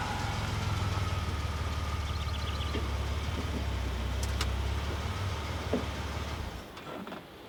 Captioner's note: engine puttering; birds chirping